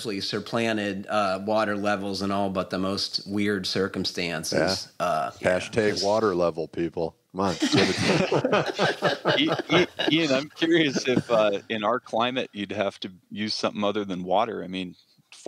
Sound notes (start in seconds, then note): 7.5 laughs